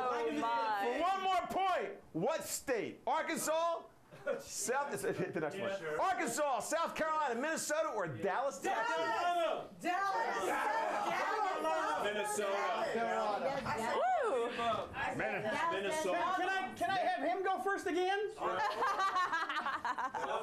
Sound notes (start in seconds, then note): 8.5 audience shouts answers